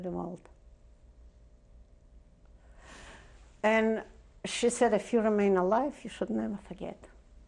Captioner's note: pauses for 3 seconds